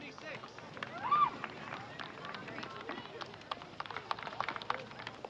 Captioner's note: audience applauding